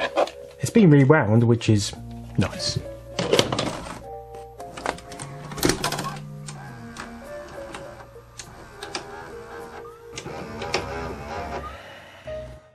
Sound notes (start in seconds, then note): 4.6 delightful clunking; 6.5 mechanical sounds of acceptance